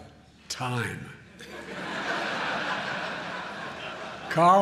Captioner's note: laughter